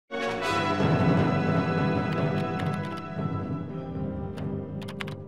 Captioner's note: keyboard clatters; dramatic music; soft music